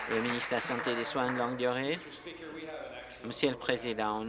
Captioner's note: applause